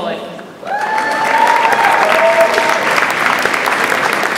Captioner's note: audience applauds